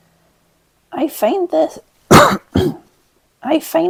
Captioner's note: cough